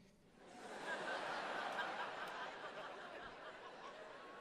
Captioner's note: crowd laughing